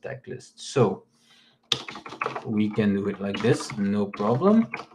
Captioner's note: keyboard clicks